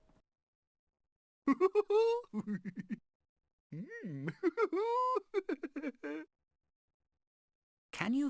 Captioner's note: mr tickle chuckling